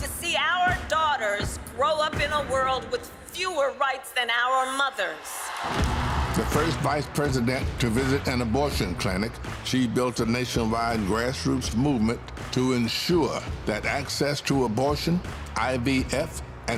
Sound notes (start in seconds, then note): 9.2 cheers and applause